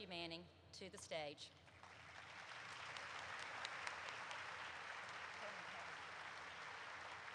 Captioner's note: applause erupts